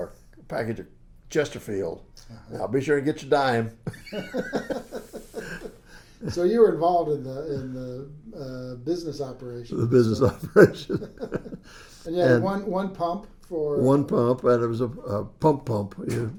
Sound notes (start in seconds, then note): 3.8 laughs; 9.7 laughs